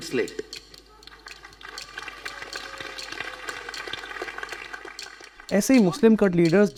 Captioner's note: claps